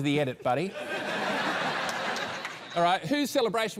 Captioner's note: laughter